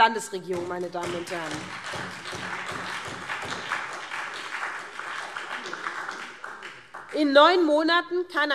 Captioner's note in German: Beifall SPD